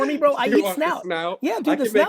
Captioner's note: laughs